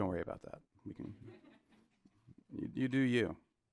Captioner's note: audience laughing